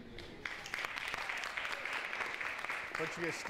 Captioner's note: applause